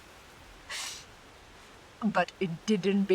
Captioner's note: laughs